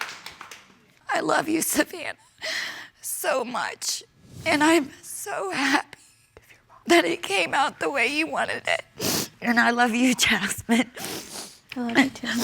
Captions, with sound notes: I love you, Savanna. (SOBBING) So much. And I'm so happy... (WHISPERS) Give your mom a hug. ...that it came out the way you wanted it. And I love you, Jasmine. (SNIFFLES)